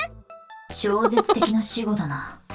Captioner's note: chuckles